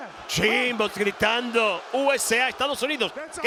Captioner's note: applause